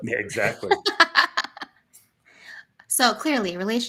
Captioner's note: laughter